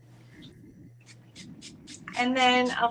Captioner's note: hairspray spritzing